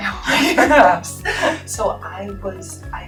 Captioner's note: both chuckling